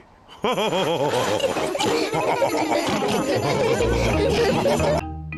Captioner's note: all laugh